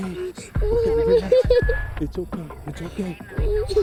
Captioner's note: crying